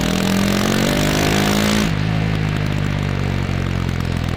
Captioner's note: and the resonance when revving it out